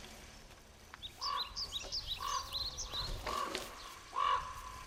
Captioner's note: birds chirping